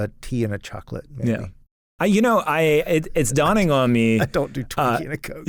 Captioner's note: laughs